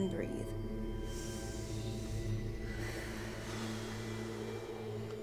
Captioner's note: inhaling and exhaling